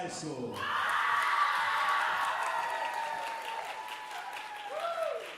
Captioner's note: audience cheering and applauding